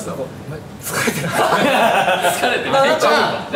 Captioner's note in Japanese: 笑い